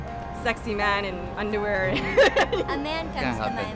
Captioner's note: laughs